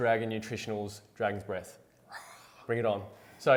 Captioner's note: roars softly